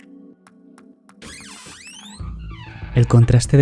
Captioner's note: door